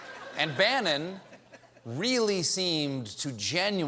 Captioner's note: laughter